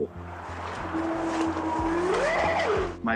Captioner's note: howling